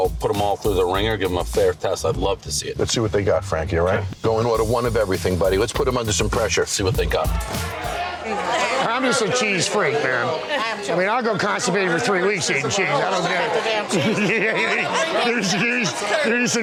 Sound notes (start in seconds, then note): 8.0 patrons chattering; 11.8 chuckles